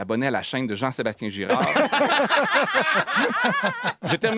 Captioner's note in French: rires